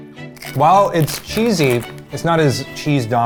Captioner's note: crunching